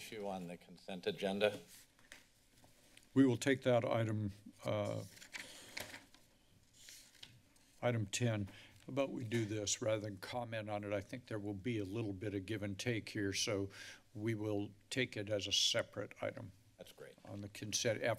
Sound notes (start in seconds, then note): 5.0 papers flipping